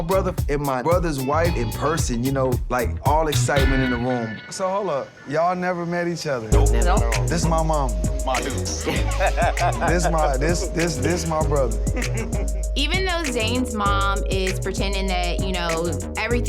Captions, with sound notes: me and my brother and my brother's wife in person, you know like all excitement in the room. So hold up. Y'all never met each other? - No. - Not all. - This is my mama. - Ma Dukes! (laughing) - This my brother. - Even though Zane's mom is pretending that you know,